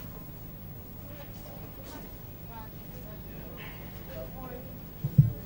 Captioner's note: customers conversing faintly